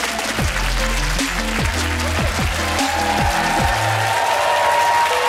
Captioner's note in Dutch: applaus en gejuich